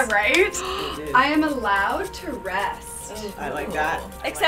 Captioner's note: gasps